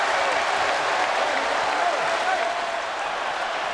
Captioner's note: crowd roaring